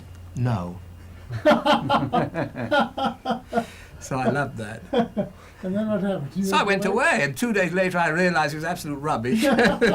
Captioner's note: laughter